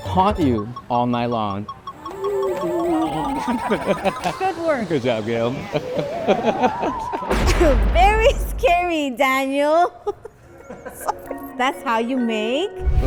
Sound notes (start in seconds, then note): 1.5 spooky music; 2.5 both chuckling; 5.6 chuckling; 5.7 spooky music; 9.6 chuckling